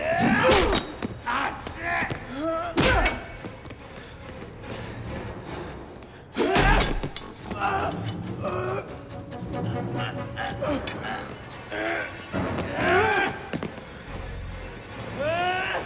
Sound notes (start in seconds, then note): 0.2 Gammon yells; 2.8 blow thuds; 7.5 both grunting